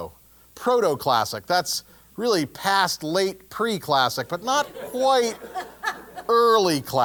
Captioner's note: laugh